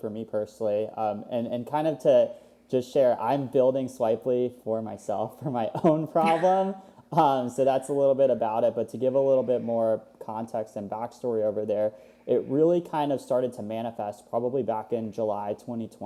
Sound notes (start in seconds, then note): 6.1 laughs